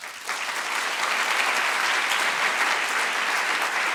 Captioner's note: applause